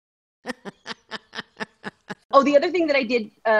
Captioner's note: chuckles